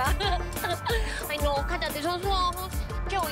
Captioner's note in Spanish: Risas